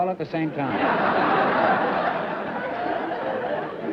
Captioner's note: laughter